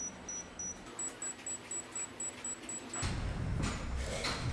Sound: beeps faster; beeps really fast

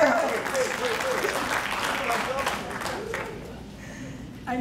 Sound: crowd clapping

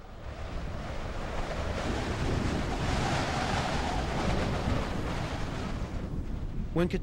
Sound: wind howling

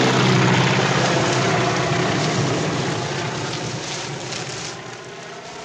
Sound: corn stalks rustling

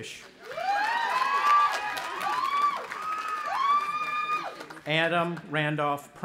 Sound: audience applauding and cheering

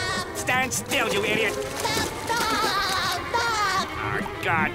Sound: laughing

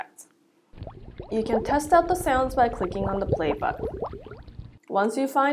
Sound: bubbling sound

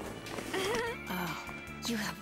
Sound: laughs

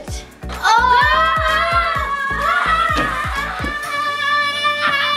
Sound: cheering loudly

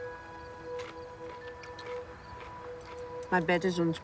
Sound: munching

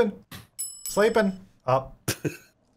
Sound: bell chiming

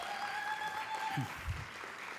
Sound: applause

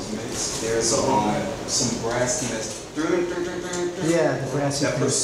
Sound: imitating deep beat

